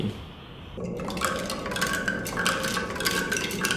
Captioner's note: rattling